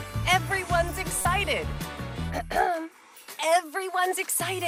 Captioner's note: clears throat